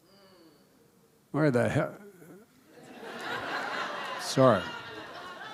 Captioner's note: laughter